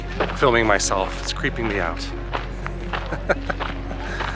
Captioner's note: laughter